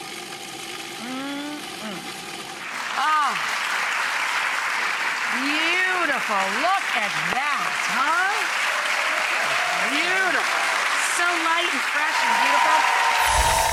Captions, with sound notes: (audience applauds) Beautiful, look at that, huh? Beautiful.